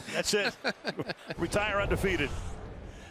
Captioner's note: laughter